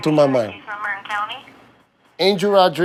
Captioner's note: woman on phone talking